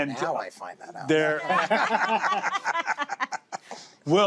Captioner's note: all laugh